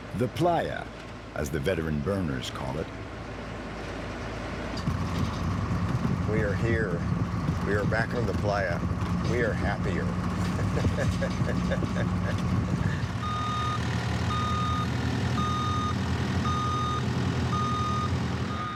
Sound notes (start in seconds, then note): 10.4 laughing; 13.6 truck beeping